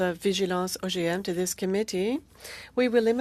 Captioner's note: speaking french